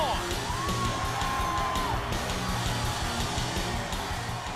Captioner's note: audience cheers